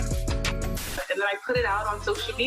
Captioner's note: static